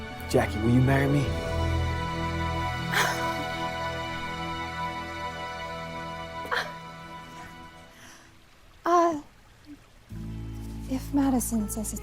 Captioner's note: soft music; laughing